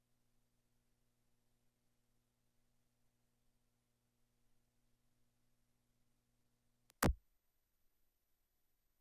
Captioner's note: silence